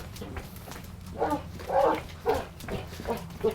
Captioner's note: Junny barks